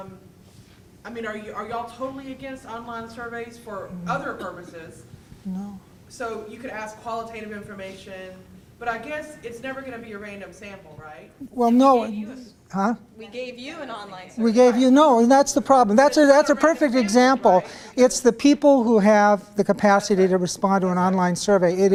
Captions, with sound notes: I mean are you all totally against online surveys for other purposes? - No. - [Voiceover] So you could ask qualitative information but I guess it's never gonna be a random sample right? - Well no. - We gave you an online survey. - Yeah no and that's the problem. That's a perfect example. It's the people who have the capacity to respond to an online survey.